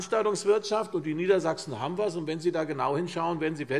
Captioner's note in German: none